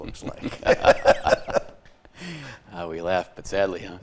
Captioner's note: both laughing